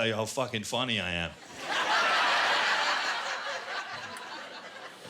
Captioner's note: laughter